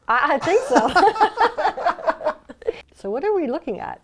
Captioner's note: laughter